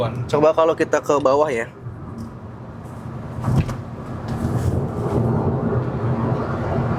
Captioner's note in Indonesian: none